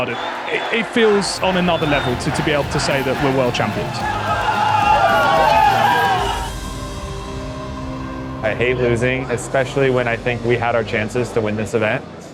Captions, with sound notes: It feels on another level to be able to say that we're World Champions. [crowd cheering] I hate losing, especially when I think we had our chances to win this event.